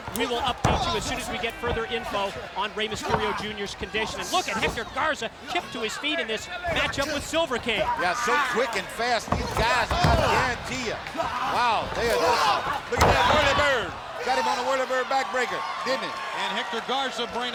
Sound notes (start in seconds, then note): 10.8 body thudding; 12.7 body thudding